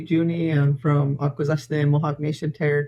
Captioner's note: speaking foreign language